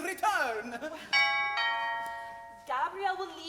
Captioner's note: doorbell rings